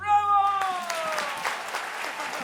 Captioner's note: applause